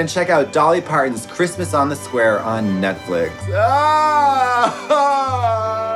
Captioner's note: cries